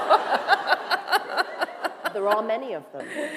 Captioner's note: laughter